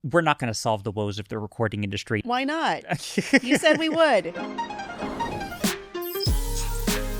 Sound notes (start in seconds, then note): 2.9 laughing; 3.8 upbeat music